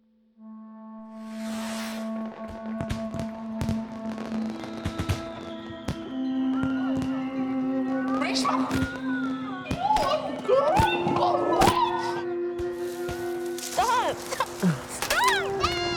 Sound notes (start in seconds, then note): 1.5 sparklers crackling